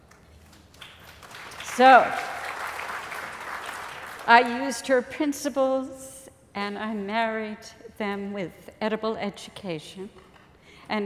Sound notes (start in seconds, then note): 0.0 applause